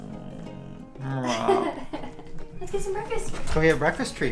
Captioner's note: laughter